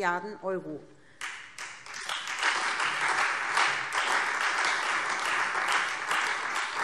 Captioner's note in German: Beifall SPD und Freie Demokraten